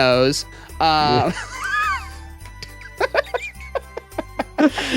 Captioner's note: laughing